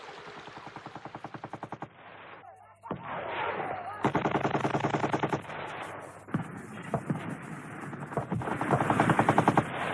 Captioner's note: machine gun fire, mortar fire, soldiers yelling commands